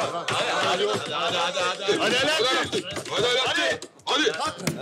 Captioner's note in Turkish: Hep bir ağızdan